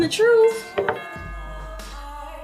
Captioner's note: doorbell